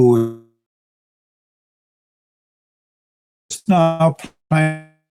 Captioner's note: audio cuts out